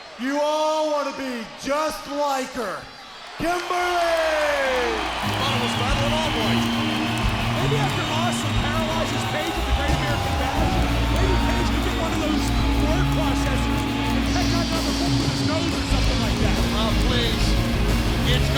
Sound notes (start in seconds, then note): 4.3 crowd cheers; 5.4 upbeat music